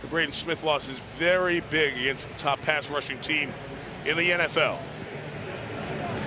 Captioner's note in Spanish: en ingles